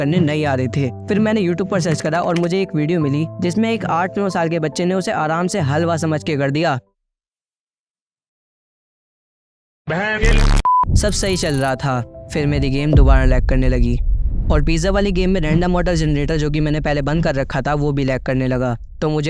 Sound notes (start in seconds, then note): 10.5 beep